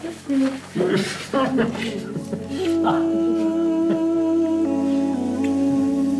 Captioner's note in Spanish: Risas